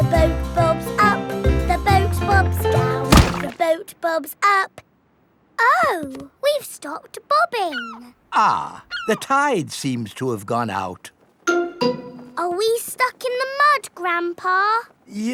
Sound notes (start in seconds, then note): 3.0 thuds